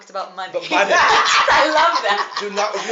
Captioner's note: they laugh